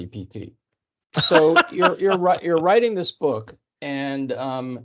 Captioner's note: laughing